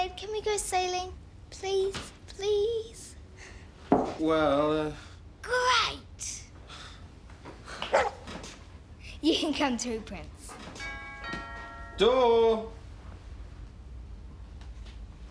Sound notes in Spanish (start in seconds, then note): 7.8 el perro ladra; 10.8 timbre suena